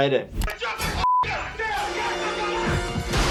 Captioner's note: yelling